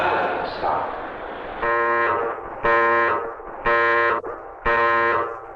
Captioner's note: alarm blaring